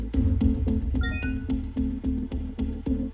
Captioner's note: beeping